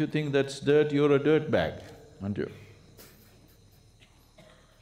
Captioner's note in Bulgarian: смее се